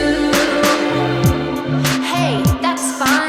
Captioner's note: space echo!